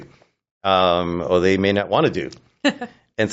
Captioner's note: chuckles